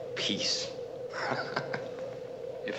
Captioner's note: laughing